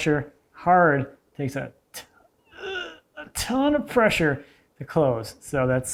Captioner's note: grunts